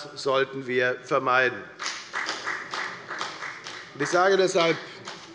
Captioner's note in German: Beifall bei der FDP